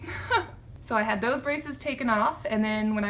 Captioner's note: laughter